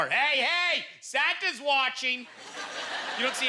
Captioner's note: audience laughter